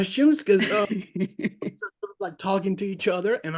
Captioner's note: laughs